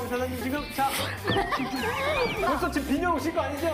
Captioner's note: laughing